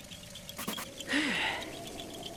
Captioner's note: sigh